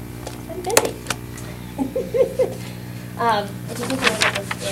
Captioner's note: laughter